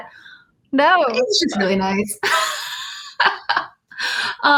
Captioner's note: laughs